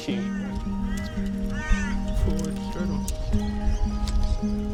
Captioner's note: seagulls squawking